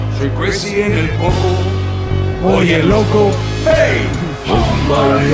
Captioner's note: non-english speech